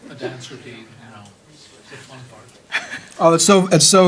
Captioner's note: audience chattering